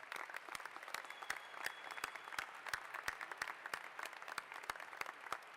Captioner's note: applause